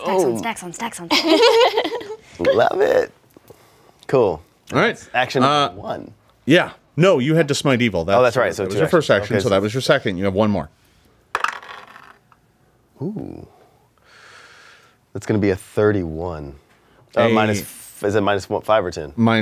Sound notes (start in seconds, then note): 11.3 dice rattles